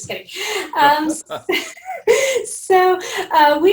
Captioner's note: laughing